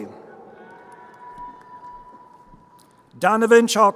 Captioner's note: crowd cheering